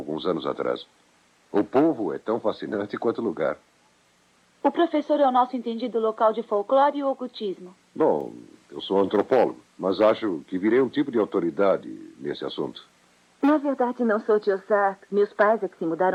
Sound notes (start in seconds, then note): none